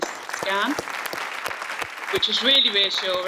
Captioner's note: audience applauds